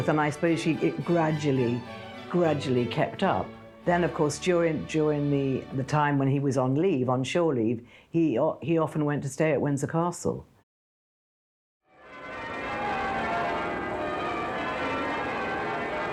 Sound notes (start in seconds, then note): 12.0 bells ringing